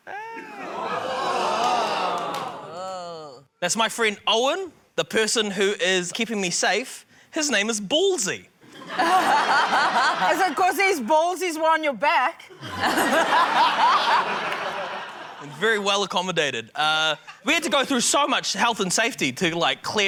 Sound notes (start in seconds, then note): 0.1 audience exclaims; 8.7 laughter; 12.5 laughter